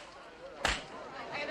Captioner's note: people chattering; slap